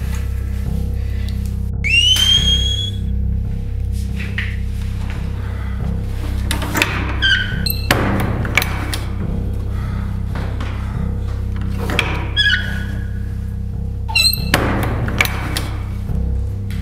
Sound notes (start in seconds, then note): 1.8 loud whistle